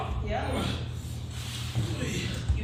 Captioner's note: groaning